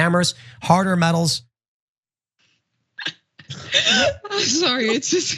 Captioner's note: laugh